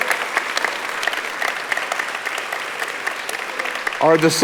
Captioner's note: audience applauding